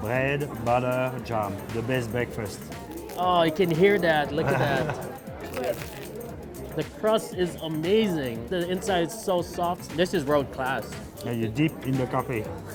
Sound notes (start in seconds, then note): 5.4 crunching